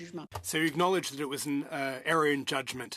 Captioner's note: speaking in French